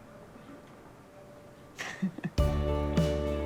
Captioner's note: Adelle chuckles